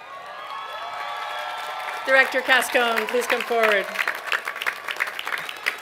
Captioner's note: applause